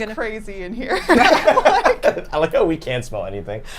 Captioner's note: group laughing